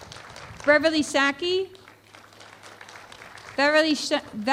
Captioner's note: applause